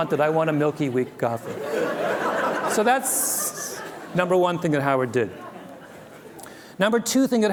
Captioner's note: laughter